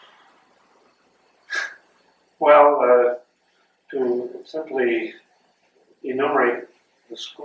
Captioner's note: sighs